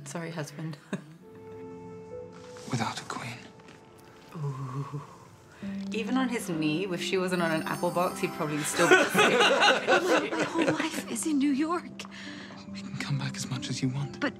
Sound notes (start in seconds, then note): 8.8 laugh